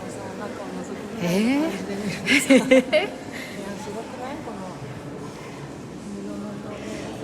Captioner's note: laughs